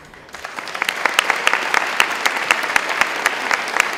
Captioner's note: applause